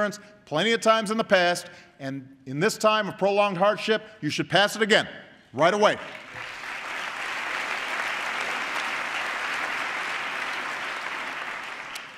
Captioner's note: applause